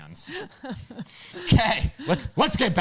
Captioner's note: laughing